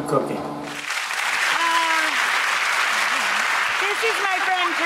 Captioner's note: audience applauds